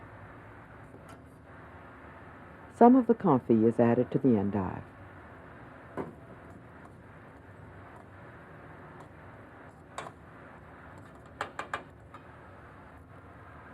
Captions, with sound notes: - [Voiceover] Some of the confit is added to the endive.